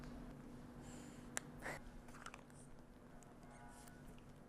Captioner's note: sniffs